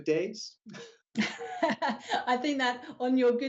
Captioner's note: laughing